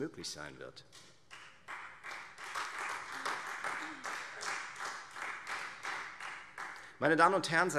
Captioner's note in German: Beifall Freie Demokraten